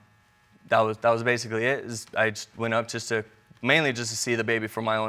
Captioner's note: none